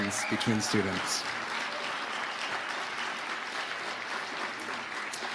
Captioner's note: audience applauding